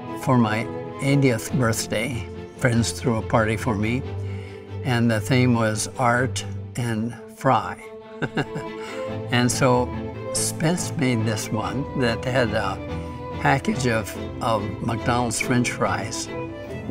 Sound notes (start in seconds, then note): 8.1 laughs